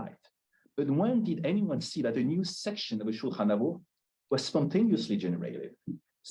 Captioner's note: Hebrew